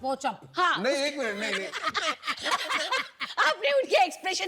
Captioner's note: laugh